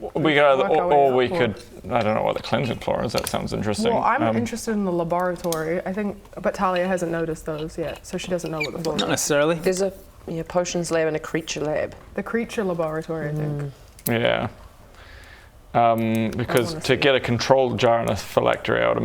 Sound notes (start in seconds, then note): none